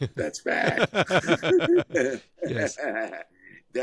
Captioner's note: both laugh